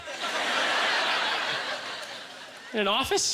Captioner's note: audience laughter